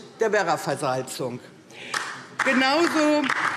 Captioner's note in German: Beifall DIE LINKE